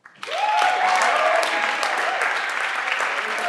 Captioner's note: everyone claps